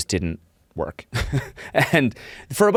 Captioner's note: chuckles